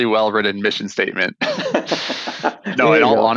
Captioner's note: all laughs